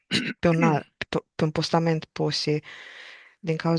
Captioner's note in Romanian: voce dreasă